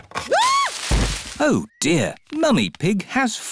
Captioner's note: thuds; screams